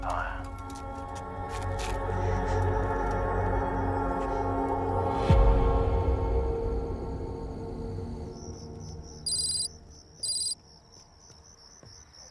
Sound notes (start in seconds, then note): 0.0 suspenseful music; 6.0 crickets chirping; 10.2 letters clicking